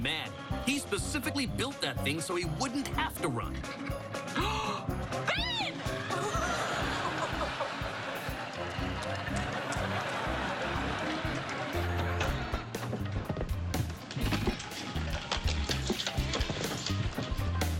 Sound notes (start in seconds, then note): 4.4 gasps; 6.7 laughs